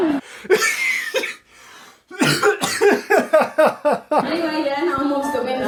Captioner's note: coughing and laughing